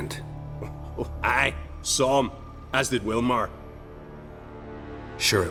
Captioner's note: chuckle